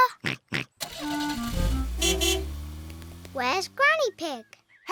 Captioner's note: oinks; horn beeps